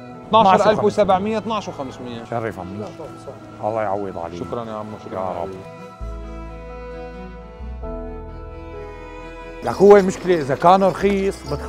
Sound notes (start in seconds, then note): 3.6 chatter